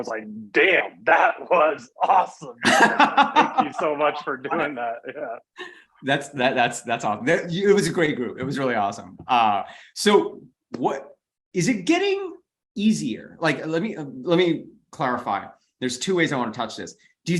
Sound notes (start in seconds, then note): 2.0 laughs